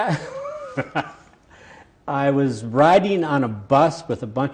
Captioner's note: laughs